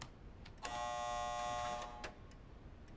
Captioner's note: buzzer buzzing